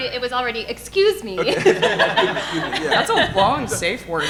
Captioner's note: audience laughing